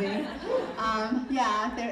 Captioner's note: audience laughing